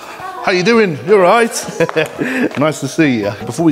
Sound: laughs

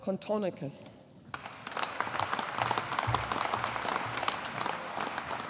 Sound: audience applauding

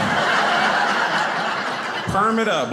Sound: audience laughing

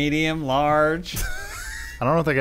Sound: wheezing

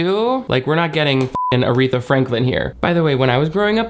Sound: beep

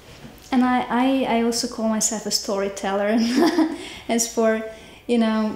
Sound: laughing

